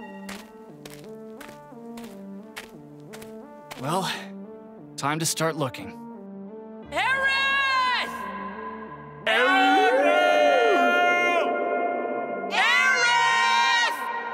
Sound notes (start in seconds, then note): 0.0 rings out; 0.0 footsteps; 9.3 howling